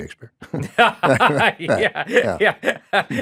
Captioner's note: laughing